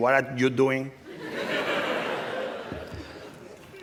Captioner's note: laughter